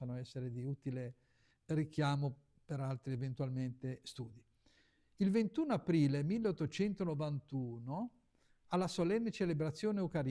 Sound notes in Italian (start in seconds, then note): none